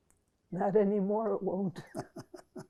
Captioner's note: laughing